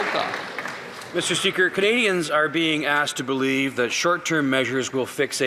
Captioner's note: some Applause